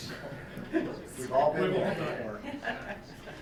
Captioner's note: chuckles